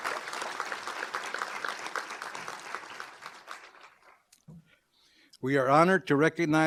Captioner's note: applause